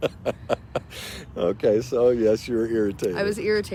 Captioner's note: father laughs